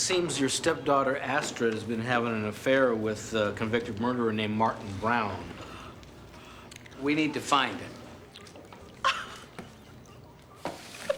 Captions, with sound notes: Okay, it seems your stepdaughter, Astrid's been having an affair with a convicted murderer named Martin Browne. (gasps) We need to find him. (crying)